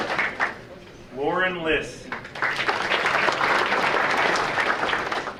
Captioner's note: audience applauding; audience applauding